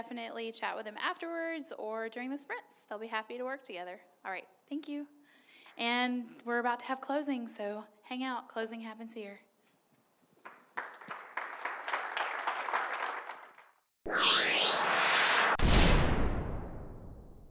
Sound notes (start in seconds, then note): 10.4 audience applauding; 14.1 electronic music